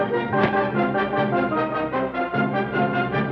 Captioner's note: thud